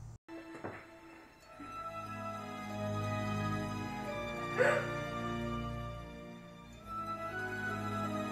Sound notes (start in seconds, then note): 0.3 mysterious music; 4.5 Beretta gasps